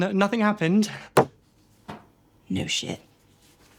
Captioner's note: dart and book cover thudding